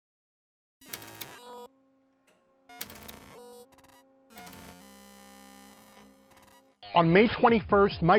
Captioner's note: static and typing